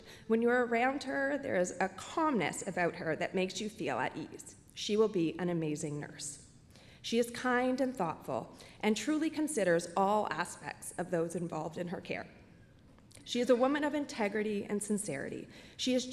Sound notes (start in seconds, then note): none